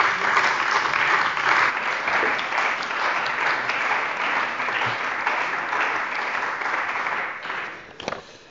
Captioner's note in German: Beifall bei der CDU und dem BÜNDNIS 90/DIE GRÜNEN